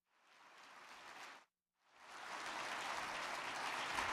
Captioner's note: crowd clapping